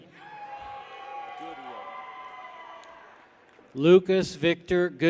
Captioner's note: people cheer